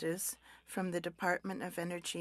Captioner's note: speaking French